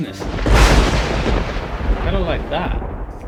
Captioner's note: thunder